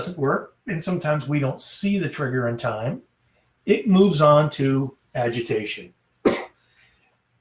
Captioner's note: coughs